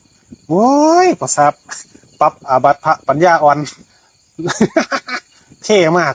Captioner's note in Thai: เสียงหัวเราะ